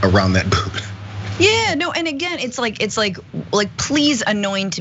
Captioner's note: laugh